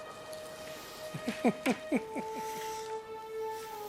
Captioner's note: chuckles